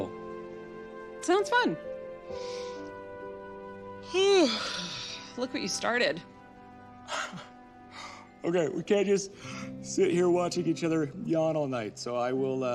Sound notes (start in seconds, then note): 4.0 yawns